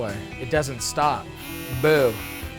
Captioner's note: Handyman buzzing